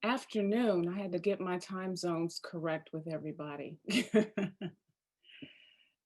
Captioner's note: laughing